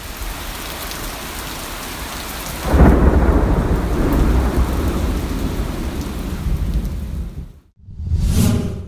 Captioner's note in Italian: pioggia